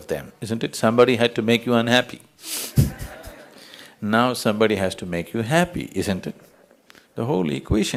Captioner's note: ضحك